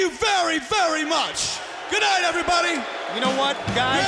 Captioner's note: crowd chatter